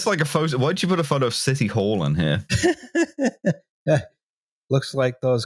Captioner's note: laughs